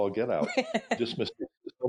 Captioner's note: laughing